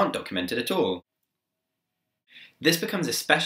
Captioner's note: silence